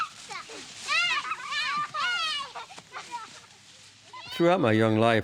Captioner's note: sounds of Children Laughing